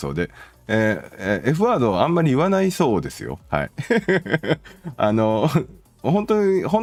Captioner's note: laughter